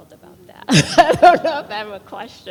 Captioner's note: laughs